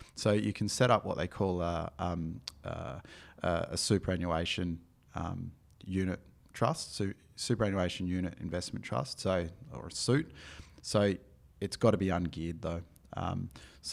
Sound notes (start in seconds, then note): none